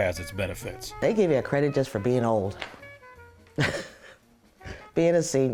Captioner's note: laughs